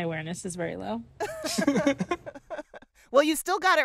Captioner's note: laughter